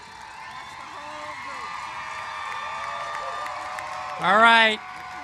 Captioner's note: cheers and applause